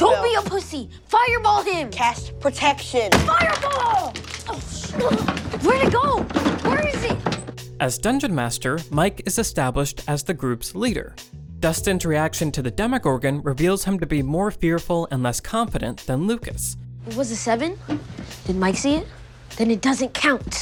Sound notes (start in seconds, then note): 4.1 grunting